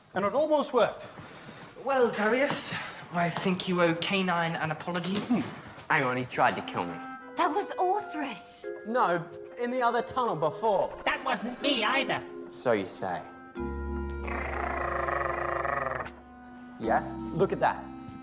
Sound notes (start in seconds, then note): 14.2 growling